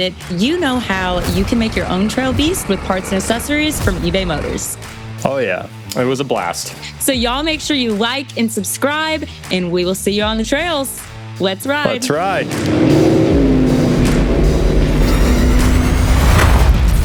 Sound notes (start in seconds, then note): 13.1 car engine revs